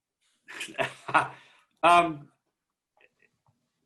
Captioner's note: chuckles